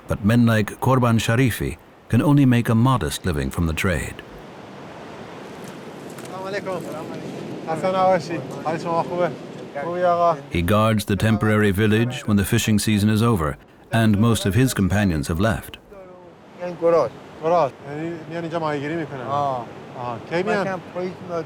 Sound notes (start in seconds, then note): 7.3 they speak Farsi; 16.6 they speak Farsi